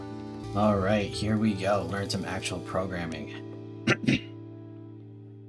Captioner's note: clears throat